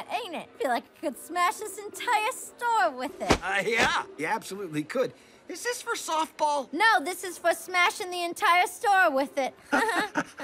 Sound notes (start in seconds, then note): 3.2 swinging bat; 9.7 both laugh